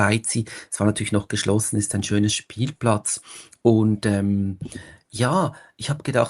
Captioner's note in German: schnauben